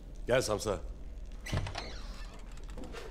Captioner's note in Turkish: Kapı açılma sesi